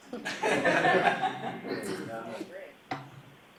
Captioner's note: laughing